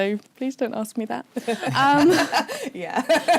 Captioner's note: laughter